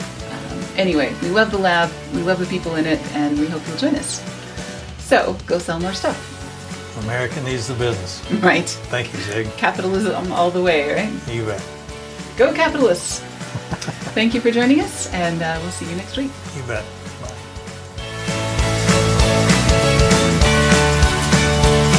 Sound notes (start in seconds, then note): 9.1 laughs; 13.4 laughs; 19.1 upbeat music